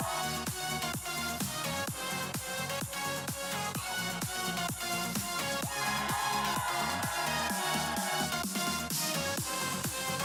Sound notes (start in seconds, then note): 5.6 crowd cheering